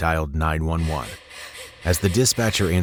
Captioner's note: person panting rapidly